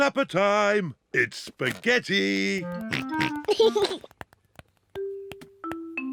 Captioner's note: george snorts and laughs